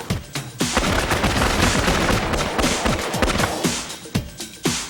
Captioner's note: guns firing rapidly